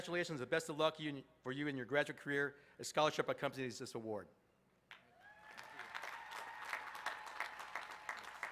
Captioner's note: applause